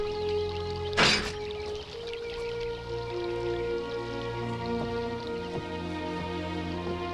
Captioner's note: trap clangs; tense music softens